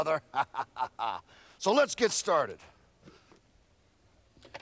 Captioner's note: laugh